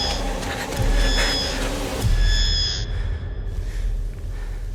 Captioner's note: heavy breathing